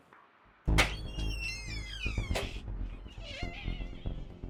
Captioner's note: door creaking